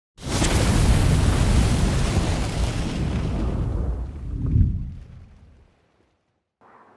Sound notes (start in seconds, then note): 0.2 fire erupting